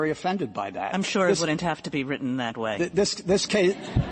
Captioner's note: laughter